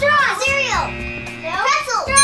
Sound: buzzer

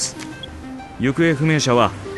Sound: device beeps

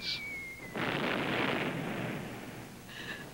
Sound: explosion

